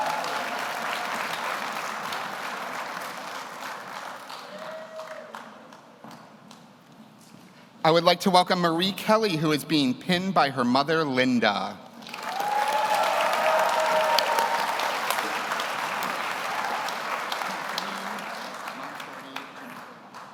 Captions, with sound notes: (audience applauds) I would like to welcome Marie Kelly, who is being pinned by her mother, Linda. (audience cheers) (audience applauds)